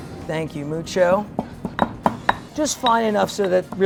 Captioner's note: pestle clacking